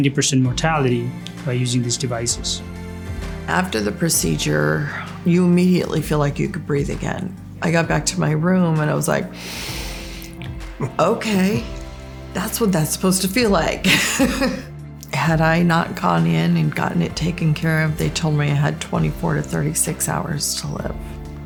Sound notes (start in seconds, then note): 9.3 breathes deeply; 13.8 laughter